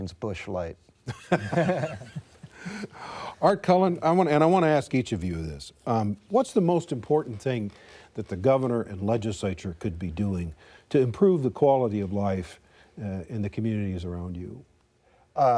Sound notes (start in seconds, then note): 2.8 laughter